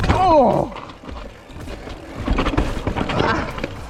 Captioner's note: groans